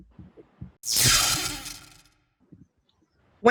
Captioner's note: zap